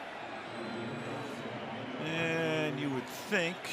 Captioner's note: pa announcement